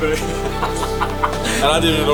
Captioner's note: players laughing